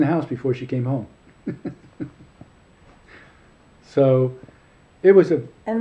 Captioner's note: laughing